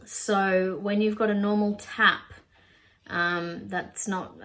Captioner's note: none